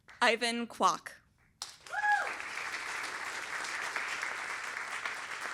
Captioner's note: applause